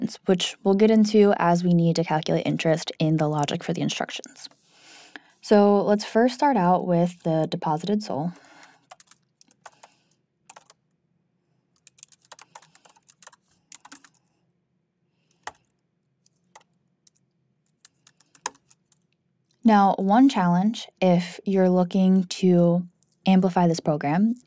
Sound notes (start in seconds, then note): 9.5 keyboard clanking